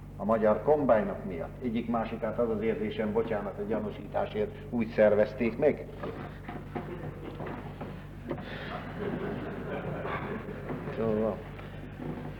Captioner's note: laughter